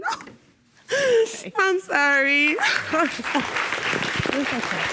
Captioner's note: sobbing